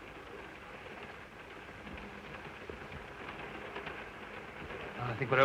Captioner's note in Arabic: صوت خشخشة القطار